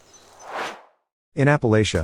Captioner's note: air swooshes